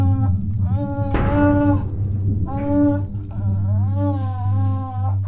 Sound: creature cooing

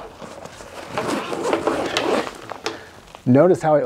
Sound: loud zipping

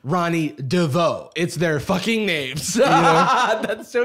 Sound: laughs

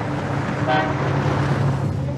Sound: horn honks

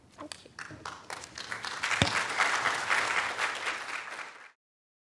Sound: applause

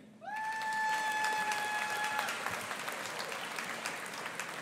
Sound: audience applauding

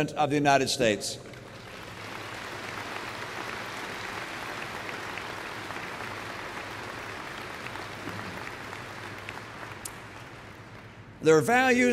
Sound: applause

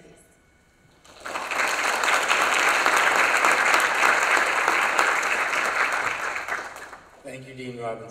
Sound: applause

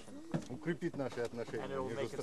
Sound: russian speech

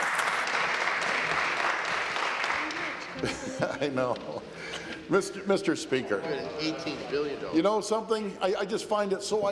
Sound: some Applause

